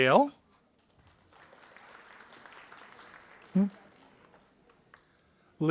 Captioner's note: audience applauding